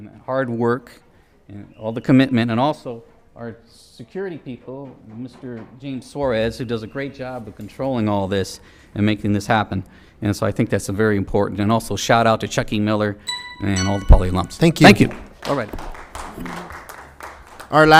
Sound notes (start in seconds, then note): 13.2 timer chimes; 15.0 applause